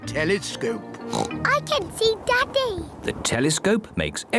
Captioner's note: oinks